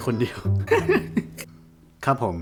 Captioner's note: sob